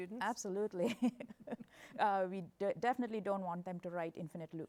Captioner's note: laughs